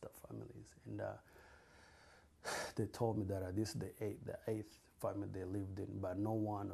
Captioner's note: sighs